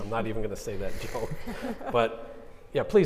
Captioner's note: co-moderators laughing